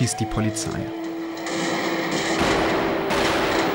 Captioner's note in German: Schüsse; Unruhige Musik